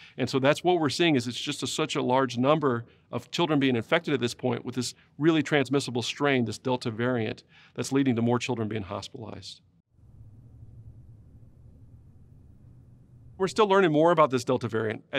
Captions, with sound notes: and so that's what we're seeing is it's just such a large number of children being infected at this point with this really transmissible strain- this delta variant, that's leading to more children being hospitalized. [silence] We're still learning more about this delta variant.